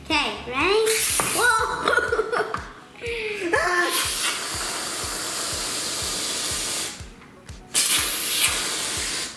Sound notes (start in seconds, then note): 0.0 both shouting; 3.9 aerosol sprays